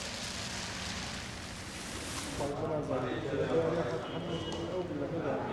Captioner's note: speaking foreign language